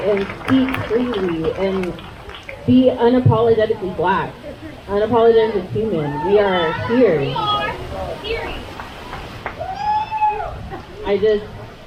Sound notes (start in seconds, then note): 7.0 crowd; 8.9 crowd cheers